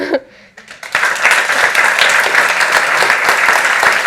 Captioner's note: applause